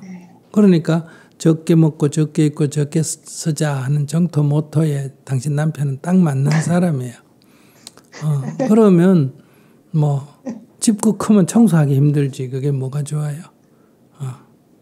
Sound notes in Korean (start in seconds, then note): 8.1 질문자 웃음